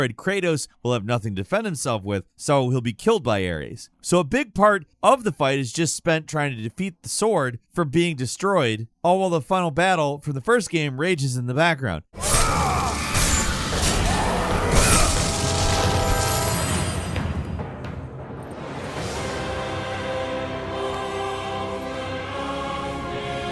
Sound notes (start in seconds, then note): 12.2 Kratos grunting; 12.4 dramatic music; 19.0 choir singing in foreign language